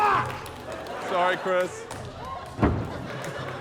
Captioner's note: laughter, applause; laughter